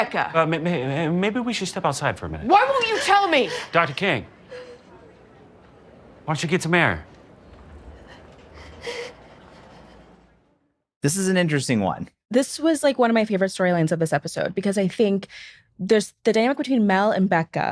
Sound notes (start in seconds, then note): 2.6 becca crying